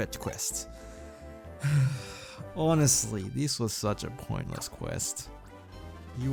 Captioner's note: sigh